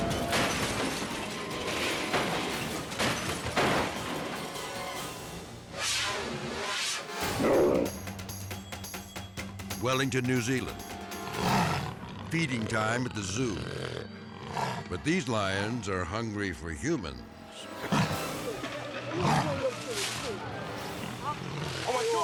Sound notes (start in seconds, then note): 0.0 dramatic music; 0.0 car imploding; 0.0 debris crunching; 0.3 dramatic music; 6.2 dramatic air whoosh; 7.3 lion growling; 11.0 suspenseful music; 11.2 lion growling; 17.1 suspenseful music; 19.0 lions snarling; 19.0 man speaking